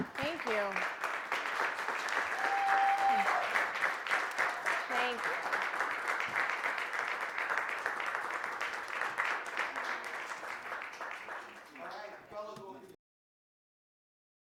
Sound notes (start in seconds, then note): 1.5 applause